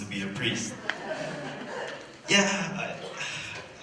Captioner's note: laughter